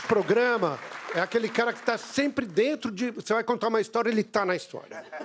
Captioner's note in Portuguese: aplausos